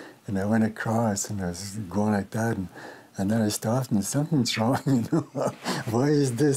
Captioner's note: laughs